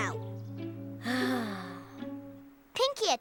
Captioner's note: sighs